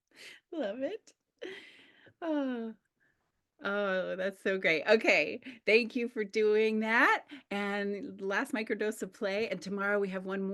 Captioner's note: happy sigh